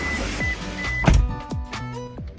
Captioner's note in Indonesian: suara tutup pintu